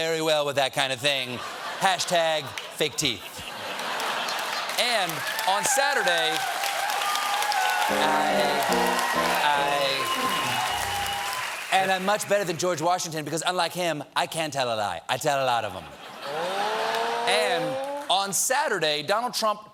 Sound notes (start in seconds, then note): 3.7 applause; 3.8 laughter